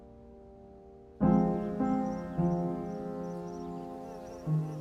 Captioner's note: birds chirping